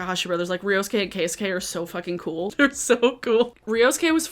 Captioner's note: laughs